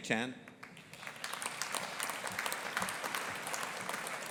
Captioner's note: audience applauding